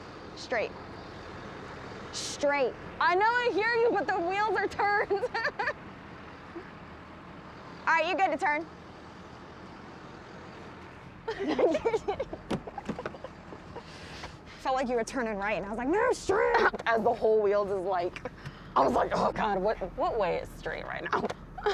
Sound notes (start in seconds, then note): 4.4 laughs; 11.2 laughter